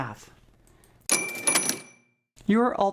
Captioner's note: frame rings